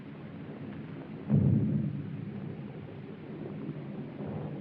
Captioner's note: rumble of thunder